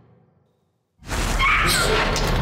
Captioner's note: screams